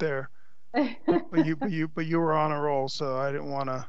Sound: laughs

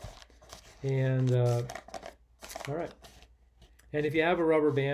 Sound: papers rustling

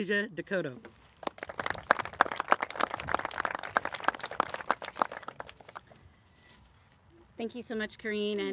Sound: applauses

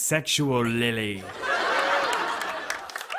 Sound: laughter

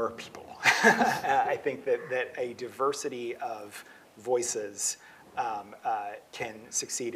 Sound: laughs

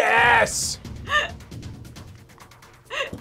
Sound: laughs

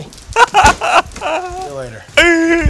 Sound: crying

